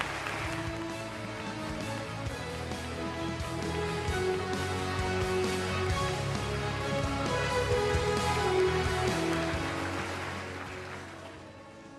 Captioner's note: applause